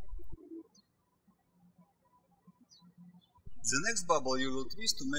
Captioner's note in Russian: птички щебечут